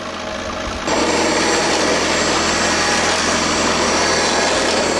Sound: machine whirring

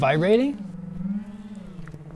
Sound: faint vibrating

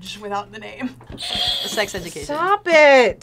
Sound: bell rings

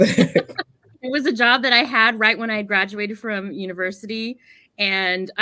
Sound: laughs

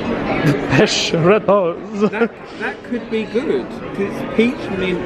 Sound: laughs

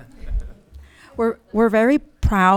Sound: audience laughs

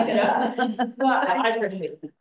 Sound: laughter

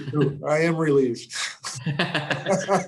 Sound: chuckling

